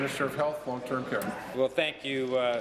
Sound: applause

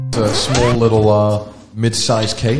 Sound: record skips

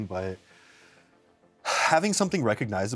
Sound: sigh

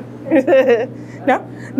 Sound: laughter

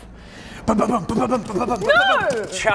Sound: gallops

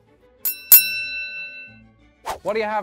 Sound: chiming

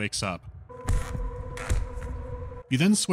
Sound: thudding punches and creaking of the chair

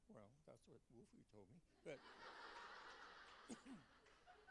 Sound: laughter

